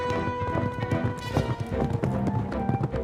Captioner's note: none